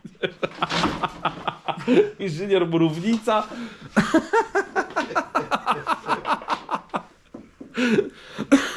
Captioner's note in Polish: śmiech